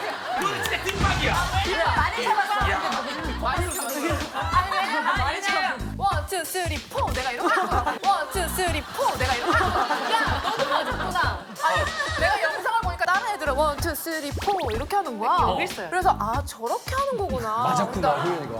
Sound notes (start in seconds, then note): 9.1 slap!